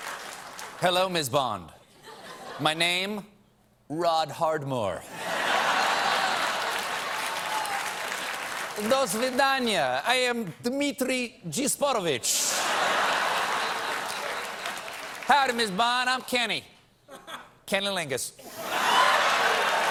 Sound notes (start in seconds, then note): 0.0 cheers and applause; 5.1 laughter; 5.7 applause